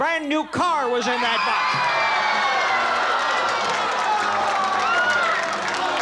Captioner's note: audience yells